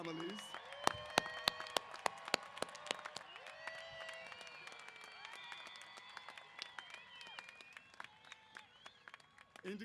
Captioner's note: applause & Cheers